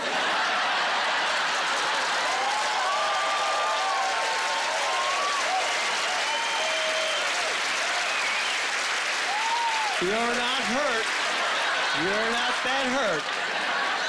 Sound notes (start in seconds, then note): 0.2 laughing; 2.2 cheering